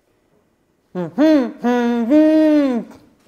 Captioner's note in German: Fröhliches Summen